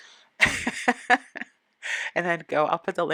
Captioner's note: laugh